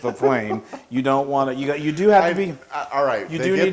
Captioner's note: laugh